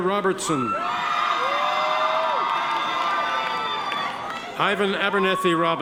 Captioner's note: audience members cheer